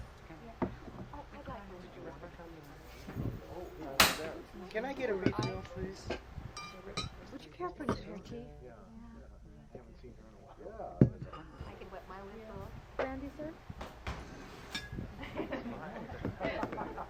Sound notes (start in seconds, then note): 1.0 people chattering